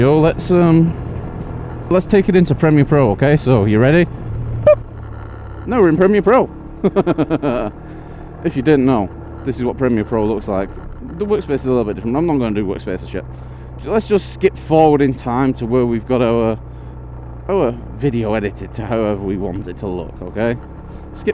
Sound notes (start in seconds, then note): 6.8 laughs